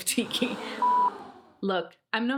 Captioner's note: beep